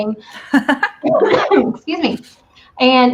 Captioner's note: coughs